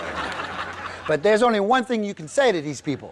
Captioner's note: audience laughs